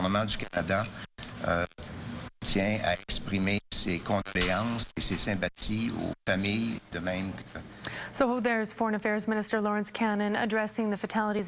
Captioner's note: speaking in french